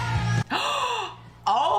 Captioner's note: gasps